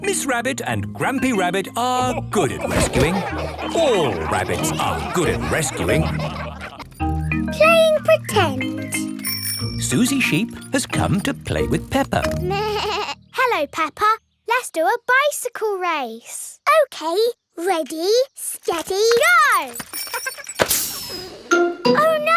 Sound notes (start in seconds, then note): 8.9 bicycle bell rings; 18.7 laughing; 20.9 tire hisses